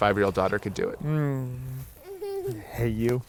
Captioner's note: giggles